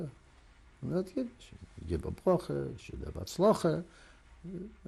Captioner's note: non-english